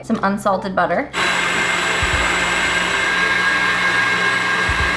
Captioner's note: mixer whirring